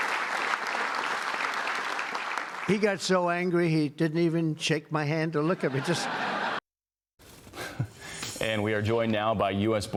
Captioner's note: applause